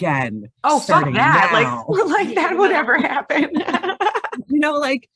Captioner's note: laughs